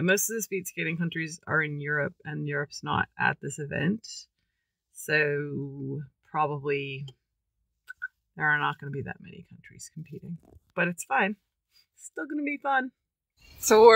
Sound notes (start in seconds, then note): none